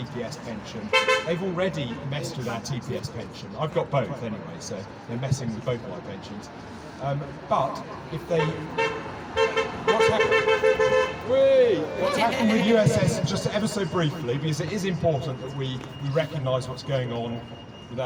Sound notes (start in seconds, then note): 0.9 car horn; 9.3 car horns, cheering